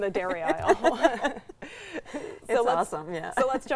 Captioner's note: pair laughs